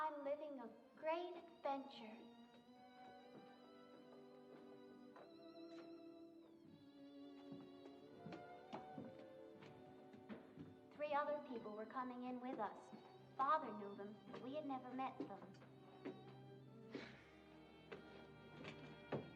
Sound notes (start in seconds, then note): 16.9 sighs